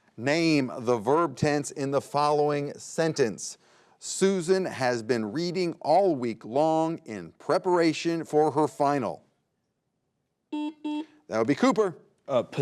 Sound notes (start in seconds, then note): 10.5 buzzer beeps